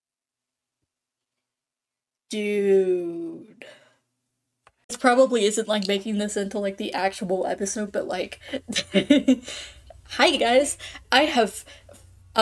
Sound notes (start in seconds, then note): 8.5 chuckles